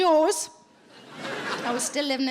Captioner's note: audience laughing